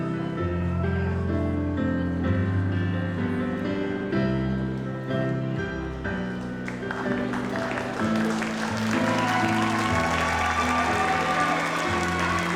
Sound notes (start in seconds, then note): 8.4 audience applauds